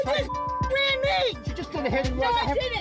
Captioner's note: beep